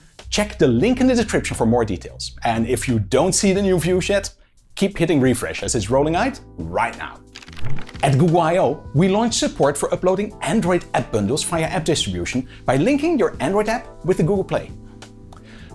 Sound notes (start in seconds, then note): 7.3 pages flipping